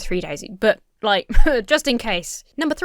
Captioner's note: huffs